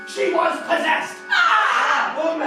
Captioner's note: screams